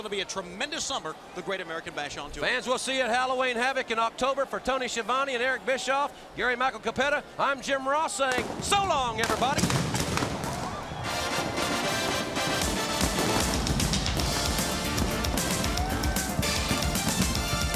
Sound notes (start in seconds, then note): 10.2 crowd cheering